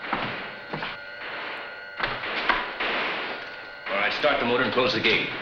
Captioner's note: guns firing